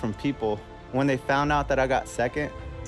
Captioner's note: none